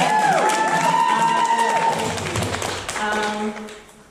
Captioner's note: applause